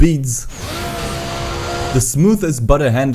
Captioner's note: v8 roar